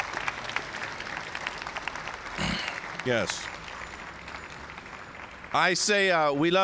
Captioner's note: applause